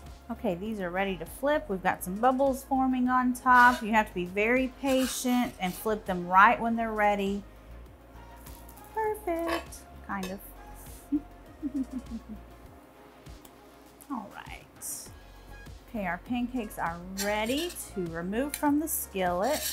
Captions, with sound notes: Okay, these are ready to flip, we've got some bubbles forming on top, you have to be very patient and flip them right when they're ready, perfect, kind of. (chuckles) All right. Okay, our pancakes are ready to remove from the skillet,